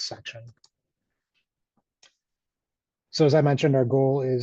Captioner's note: mouse clicks